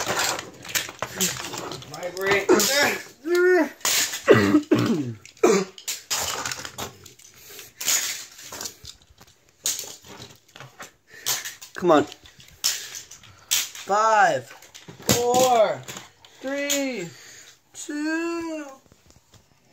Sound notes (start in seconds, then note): 3.2 grunt